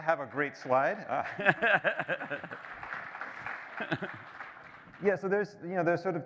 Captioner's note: applause